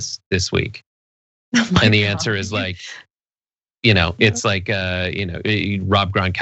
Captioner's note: laugh